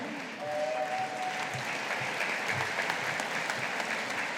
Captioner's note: audience applauding